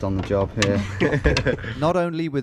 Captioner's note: both laugh